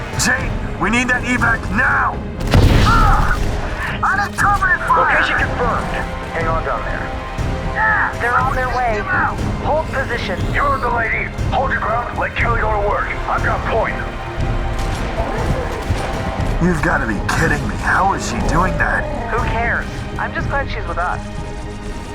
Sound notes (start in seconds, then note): 5.5 over Comms; 20.1 over Comms